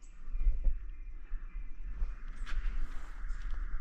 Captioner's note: audible bird song in the distance